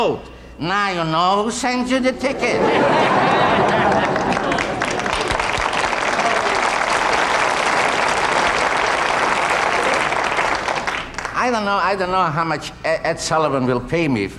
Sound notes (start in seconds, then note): 2.2 audience laughing; 3.2 applause